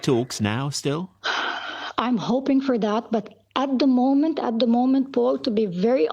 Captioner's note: sighs